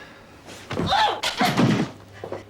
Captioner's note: grunts